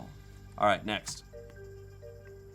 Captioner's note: key clacks; soft music